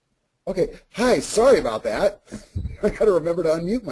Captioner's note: voiceover